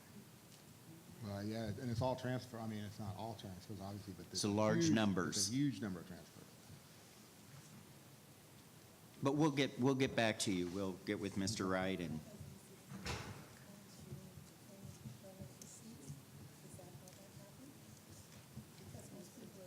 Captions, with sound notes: - Yeah, and its all transfer, I mean its not all transfers obviously - Its the large numbers. - Its a huge number of transfers. - But we'll get back to you. We'll get with Mr. Wright and-- (muffled group chatter)